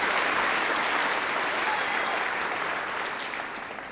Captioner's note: applause